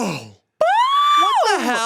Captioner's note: cheers